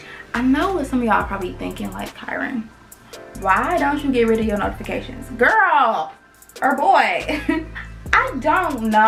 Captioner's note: laughs